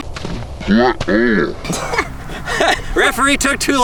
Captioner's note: speaking in robotic voice; laughing